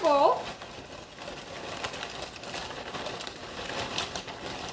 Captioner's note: chips rattling